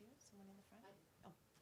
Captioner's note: voiceover